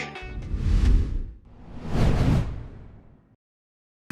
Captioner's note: logo whooshing